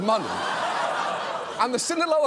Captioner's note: audience laughs